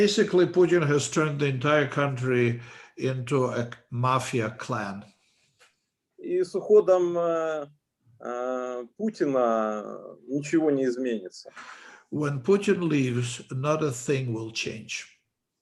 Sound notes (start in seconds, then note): 6.7 speaking Russian language